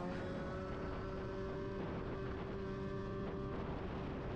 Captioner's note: engine humming